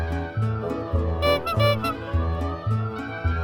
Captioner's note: clown horn; whimsical children's music